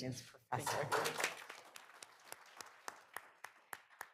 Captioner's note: people clapping